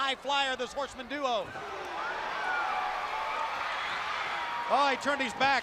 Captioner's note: crowd cheering